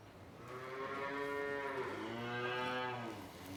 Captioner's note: cows mooing